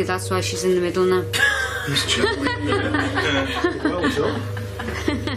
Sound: laughing

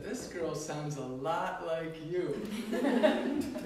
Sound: laughter

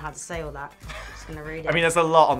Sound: chuckles

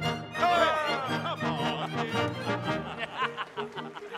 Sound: pirates laughing

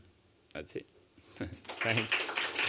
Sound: applause

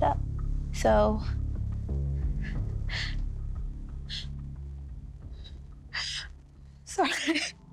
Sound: crying

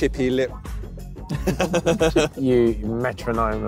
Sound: laughing

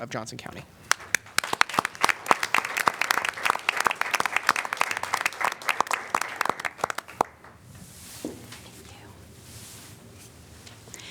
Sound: applause

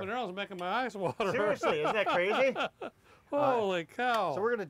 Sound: laughter

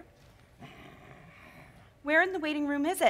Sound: Sharik softly growling

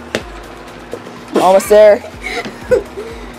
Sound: laughs

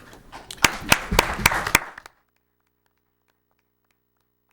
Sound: audience clapping

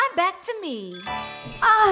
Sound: chime

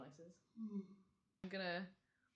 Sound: yawns

